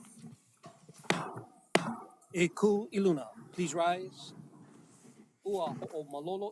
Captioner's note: gavel bangs twice